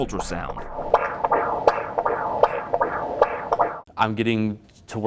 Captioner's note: heartbeat swishing